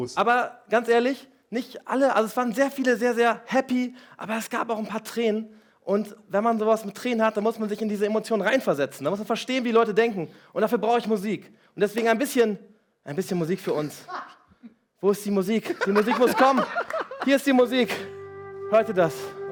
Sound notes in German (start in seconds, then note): 15.7 Alle lachen